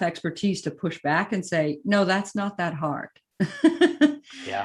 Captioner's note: laughs